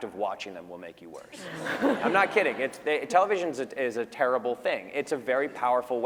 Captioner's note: laughter